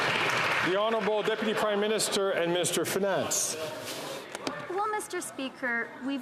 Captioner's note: some Applause